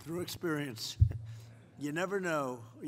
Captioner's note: laughter